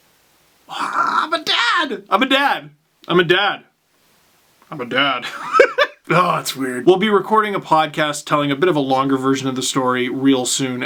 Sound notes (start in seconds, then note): 4.5 deep masculine voice; 5.2 laugh